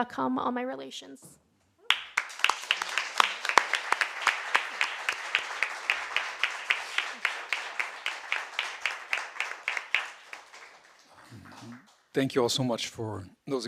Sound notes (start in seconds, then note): 1.9 audience applauding